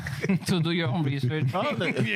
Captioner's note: laughing